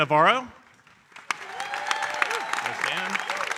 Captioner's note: audience cheering and applauding